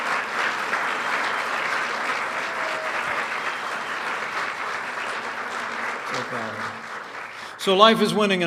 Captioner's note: applause